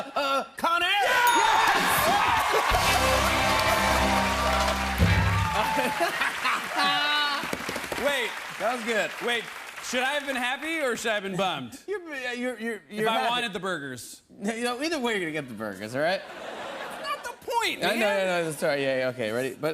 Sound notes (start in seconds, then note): 0.0 laughter; 1.3 ding; 1.3 rimshot; 4.3 cheering and applause; 5.6 laughs, drums; 16.2 laughter